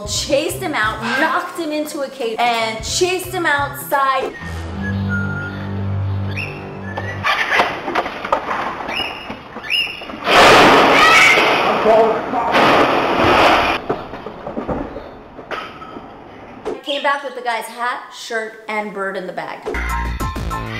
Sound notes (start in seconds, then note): 5.2 ominous music; 7.0 crashing, bird squawking